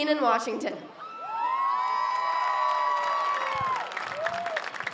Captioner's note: audience cheers